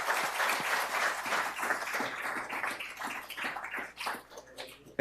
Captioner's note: audience applauds